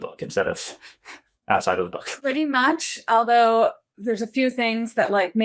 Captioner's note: sigh